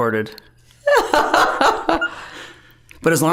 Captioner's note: both laughing